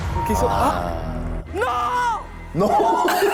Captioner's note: shouting in disappointment